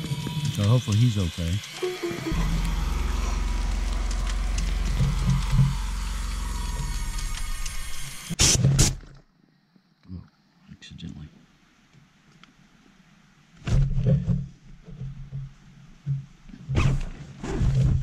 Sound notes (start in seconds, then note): 6.7 Bear Spray goes off